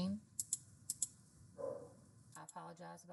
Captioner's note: dog barking